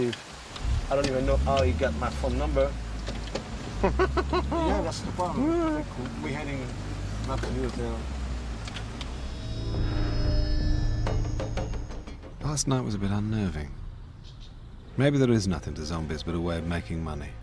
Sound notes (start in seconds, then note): 3.8 Anthony laughs; 10.4 drum beats